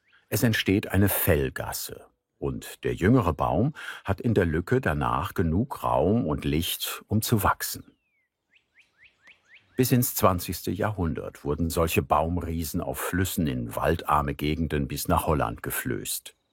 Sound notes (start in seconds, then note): 8.5 bird sounds